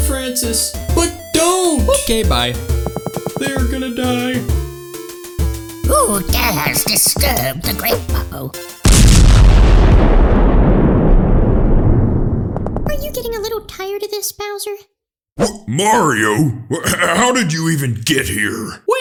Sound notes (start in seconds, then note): 8.8 castle explodes